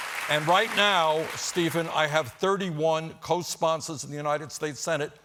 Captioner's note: applause